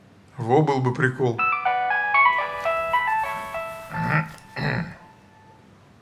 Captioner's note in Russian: звонок мобильного телефона